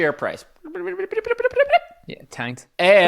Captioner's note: speaks gibberish